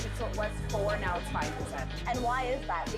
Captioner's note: servers and reporter talking